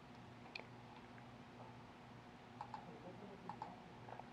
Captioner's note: mouse clicking